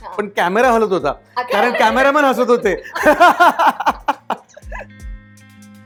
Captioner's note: laughter